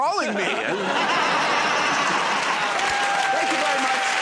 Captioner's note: laughter